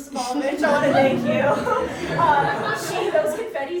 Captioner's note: audience chuckling